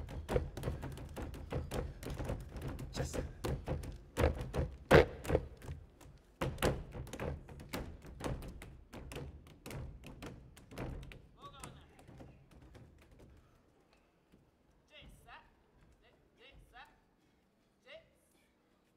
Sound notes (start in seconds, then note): 0.0 drum beating and feet stomping; 5.3 feet stomping; 9.2 feet stomping; 15.0 speaking language other than English